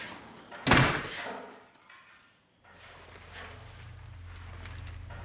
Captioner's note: door slams; distant clanging noise